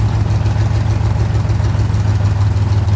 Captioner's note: none